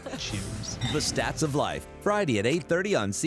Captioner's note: laughing